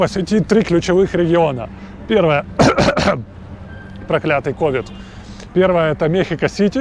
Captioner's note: coughs